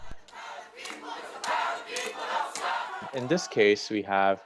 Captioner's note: people chanting